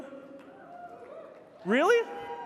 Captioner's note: audience members cheering